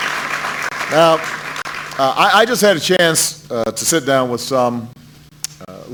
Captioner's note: applause